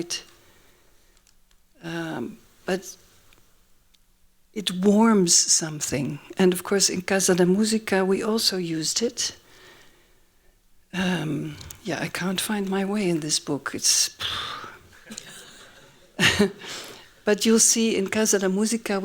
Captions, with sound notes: But it warms something. And, of course, in Casa da Musica we also used it. Yeah, I can't find my way in this book. It's-- [EXHALES] [LAUGHING] [LAUGHS] But you'll see, in Casa da Musica